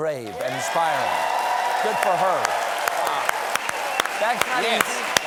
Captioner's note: cheers and applause